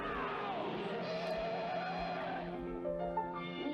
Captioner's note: hard brake noise